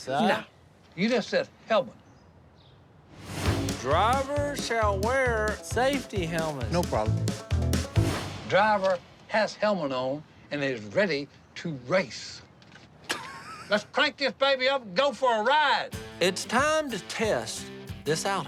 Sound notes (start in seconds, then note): 13.1 laughing